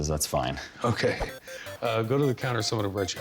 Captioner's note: laughs